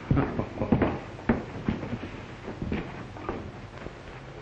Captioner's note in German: MacGrath kichert